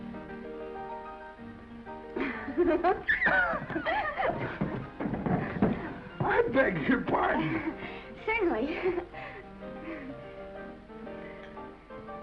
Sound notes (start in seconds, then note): 2.2 Esther laughs; 6.9 laughs; 9.5 gentle music